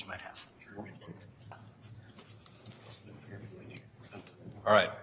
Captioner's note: quiet chattering